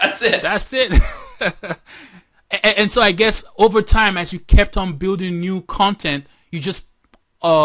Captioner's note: laughter